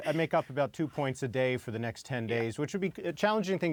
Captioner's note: laughter